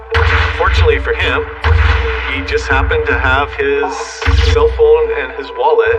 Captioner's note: gunshot